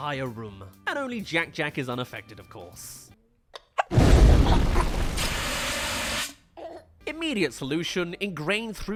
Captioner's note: fire extinguisher